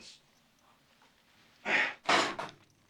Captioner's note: gasping